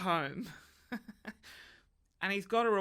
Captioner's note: laughs